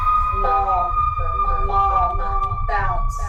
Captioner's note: echoes